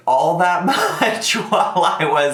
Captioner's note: chuckled